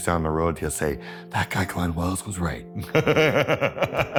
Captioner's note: laughs